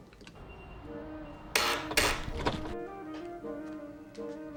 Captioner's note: door Buzzes; buzzes Twice